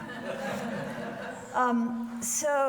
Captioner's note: audience laughs